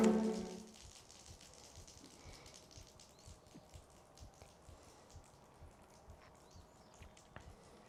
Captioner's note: silence as beer splatters on the floor